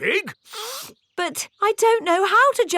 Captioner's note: sniffs